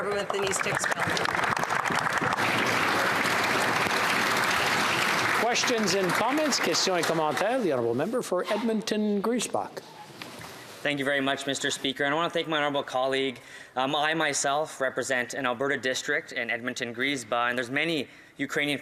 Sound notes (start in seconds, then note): 4.6 applause